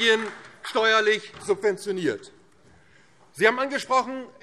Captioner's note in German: Beifall DIE LINKE